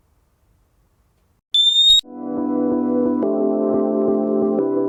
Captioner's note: alarm beeping